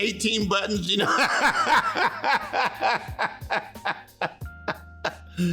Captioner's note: laughing